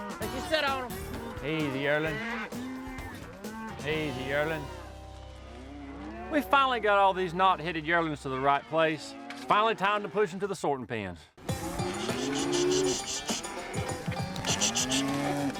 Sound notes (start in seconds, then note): 11.6 cattle lowing